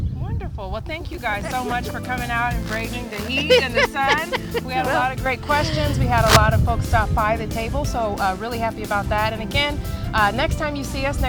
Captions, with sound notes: - WONDERFUL, WELL THANK YOU GUYS SO MUCH FOR COMING OUT AND BRAVING THE HEAT AND THE SUN. - (LAUGHS) WE HAD A LOT OF GREAT QUESTIONS, WE HAD A LOT OF FOLKS STOP BY THE TABLE, SO REALLY HAPPY ABOUT THAT, AND AGAIN, NEXT TIME YOU SEE US,